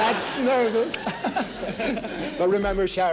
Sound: laughing; audience laughing

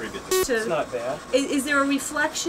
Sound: beeping

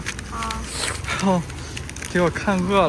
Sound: the sound of swallowing saliva

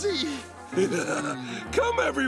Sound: chuckles

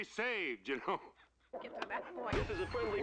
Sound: all laughing

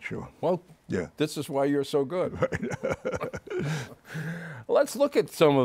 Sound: laughs

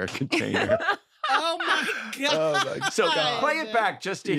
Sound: all laughing

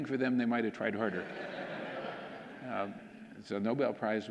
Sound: audience laughing

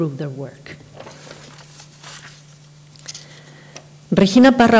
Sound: papers rustle

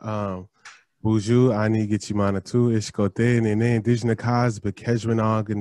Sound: speaking foreign language

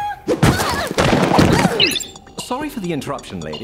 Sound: all grunting

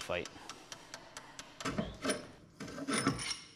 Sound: metal clanking

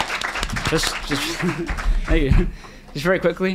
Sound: group applauds

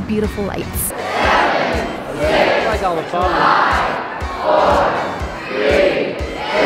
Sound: crowd

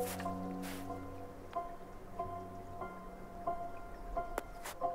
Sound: water rippling

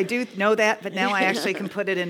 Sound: laugh

